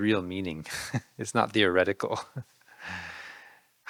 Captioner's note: laughing